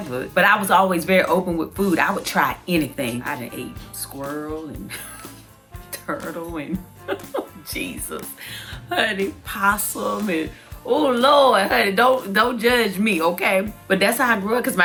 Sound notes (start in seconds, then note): 5.0 laughs; 7.0 laughs